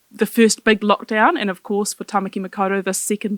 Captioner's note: speaking foreign language